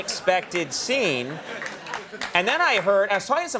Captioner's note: audience laughs